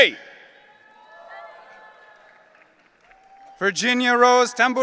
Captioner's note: audience cheering